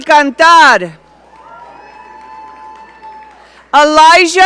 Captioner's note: audience cheering